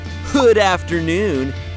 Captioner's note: voiceover